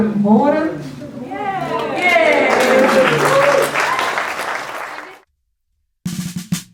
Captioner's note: cheering and applauding